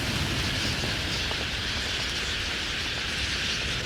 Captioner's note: birds calling, wings flapping